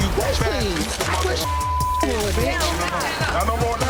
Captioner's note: beep